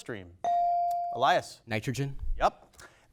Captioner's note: bell dings